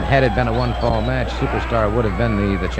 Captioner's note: wrestler groaning